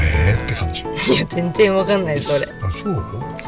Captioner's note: laughs